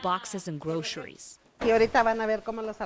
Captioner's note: speaking in foreign language